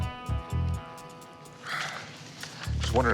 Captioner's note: sighs